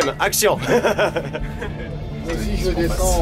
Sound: laughs

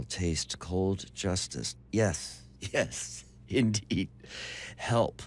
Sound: chuckling

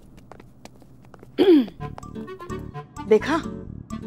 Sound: clears throat

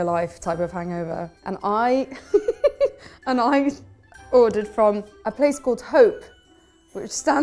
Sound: laughing

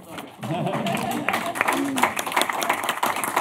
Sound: applause

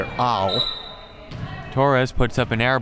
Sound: whistle

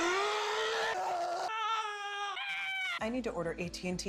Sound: screaming

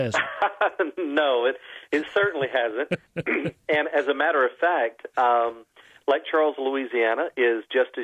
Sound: laughter

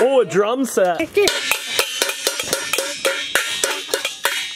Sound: metallic clanging

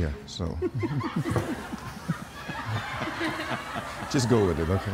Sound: laughs

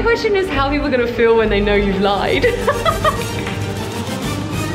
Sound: instrumental music; laughs

